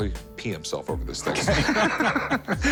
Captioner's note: laughter